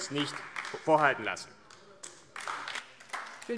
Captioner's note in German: Beifall AfD